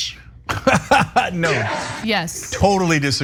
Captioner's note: laugh